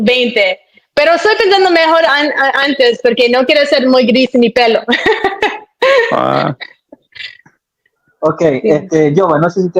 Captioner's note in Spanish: risas